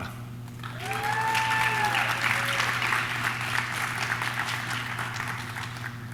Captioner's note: audience claps; audience cheers